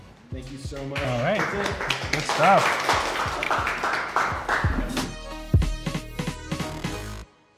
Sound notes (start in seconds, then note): 0.6 group applauds